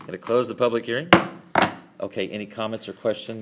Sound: gavel

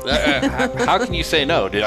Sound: laughing

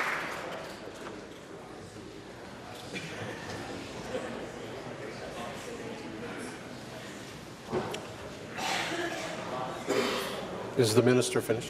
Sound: applause

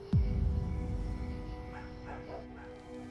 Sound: dog barks

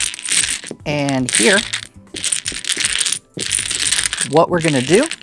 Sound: dominoes clattering; dominoes clattering

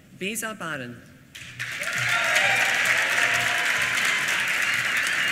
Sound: applause

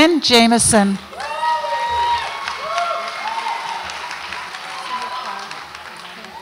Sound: audience applauds and cheers

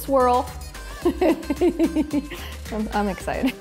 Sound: laughs

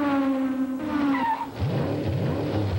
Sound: zoom!; zoom! brakes squeal to halt; engine revs

